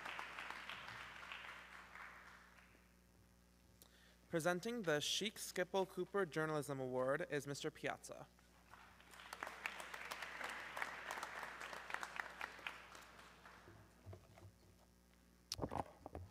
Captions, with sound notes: - Presenting the Chic Sippel Cooper Journalism award is Mr. Piazza. (audience clapping)